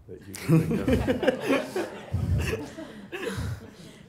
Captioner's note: laughing